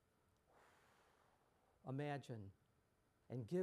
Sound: takes breath

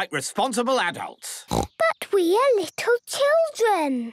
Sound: snorting

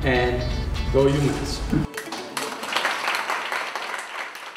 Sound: applause

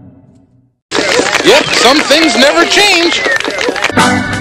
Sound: applause

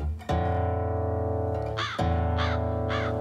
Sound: crow cawing

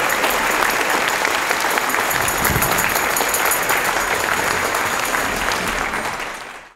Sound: applause, cheering; joyful percussion; applause; joyful percussion

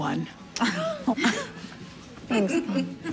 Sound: laughter

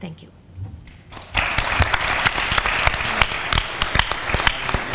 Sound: audience applauds

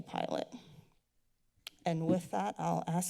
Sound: clicks tongue

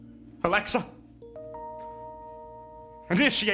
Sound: Alexa chime

